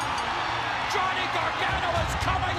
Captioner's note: bell ringing